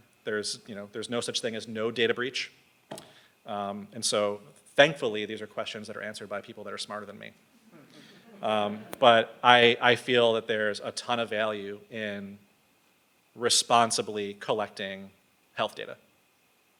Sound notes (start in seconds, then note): 7.7 audience laughs